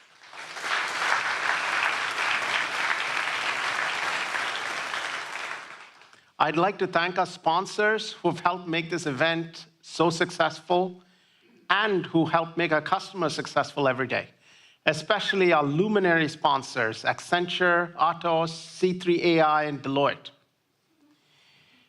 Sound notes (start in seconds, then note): 6.8 applause